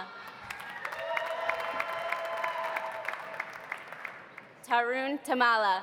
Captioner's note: audience cheering; audience applauding